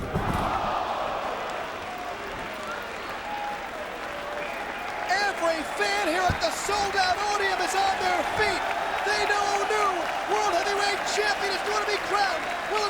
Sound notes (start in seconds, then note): 2.1 crowd clapping